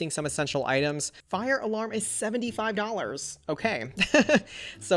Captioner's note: laughs